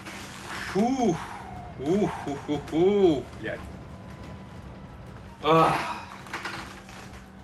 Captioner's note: emotional outburst